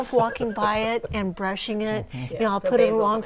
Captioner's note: laughing